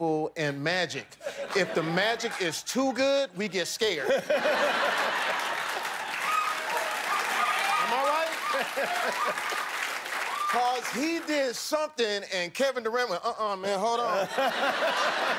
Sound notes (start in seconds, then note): 4.0 laughter; 8.9 cheers and applause